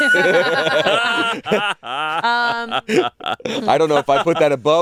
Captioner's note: all laughing